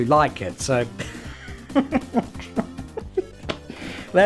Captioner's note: chuckles